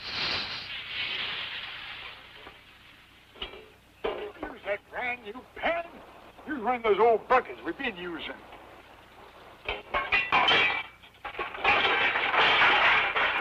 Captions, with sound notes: [hissing] Don't use that brand new pan. Use one of them old buckets we've been usin'. [clanking]